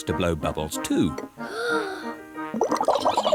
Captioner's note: takes big breath; giggles